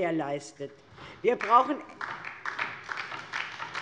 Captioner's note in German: Beifall DIE LINKE